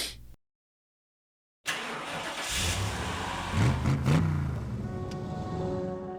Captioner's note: engine startup, followed by a rev